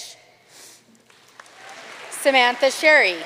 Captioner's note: audience cheering and applauding